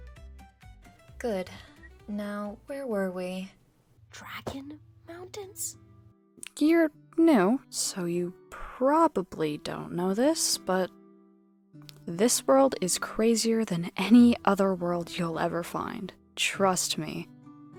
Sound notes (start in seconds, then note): 4.7 whispers